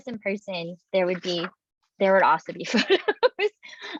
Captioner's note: laughs